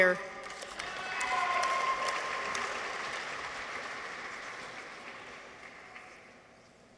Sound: audience applauds; people cheer

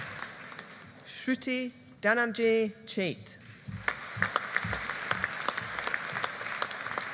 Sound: audience applauding

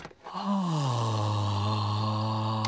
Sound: inhales deeply

